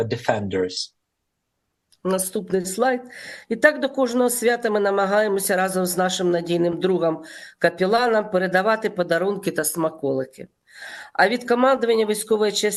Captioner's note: foreign language